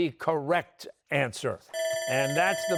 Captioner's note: bell ringing